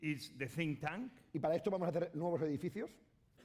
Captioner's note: speaking spanish